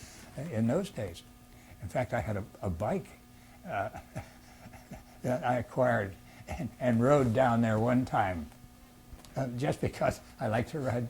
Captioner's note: laughs